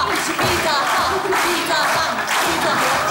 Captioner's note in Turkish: Seyirci alkışlar